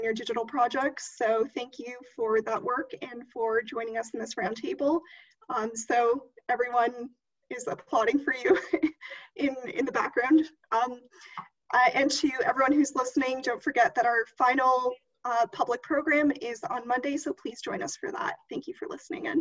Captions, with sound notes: digital projects, so thank you for that work and for joining us in this roundtable. So, everyone is applauding for you [LAUGHTER] in the background. And to everyone who's listening, don't forget that our final public program is on Monday, so please join us for that. Thank you for listening again.